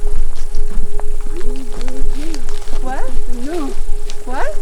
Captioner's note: insects chirping